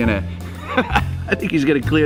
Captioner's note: laughs